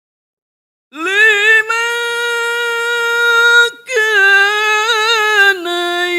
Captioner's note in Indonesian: berteriak